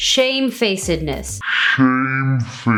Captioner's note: speaks distortedly